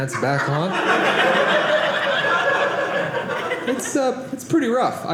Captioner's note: audience laughing